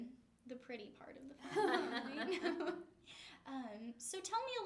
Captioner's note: laughter